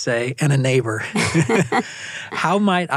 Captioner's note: both laugh